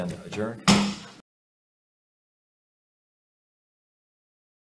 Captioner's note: gavel knocks